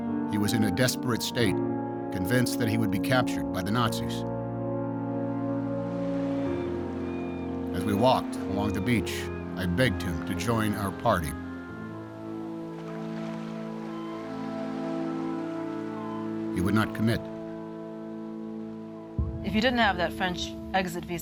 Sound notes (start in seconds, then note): 11.7 water lapping